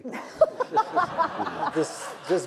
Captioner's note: laughter